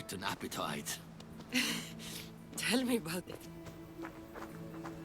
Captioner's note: laugh